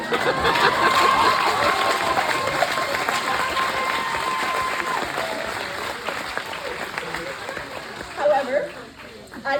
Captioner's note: cheering and applause